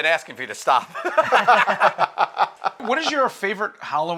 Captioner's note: laughter